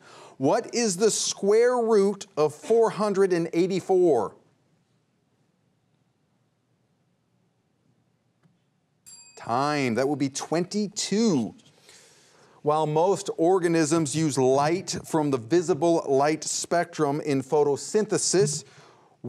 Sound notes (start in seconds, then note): 9.0 bell dings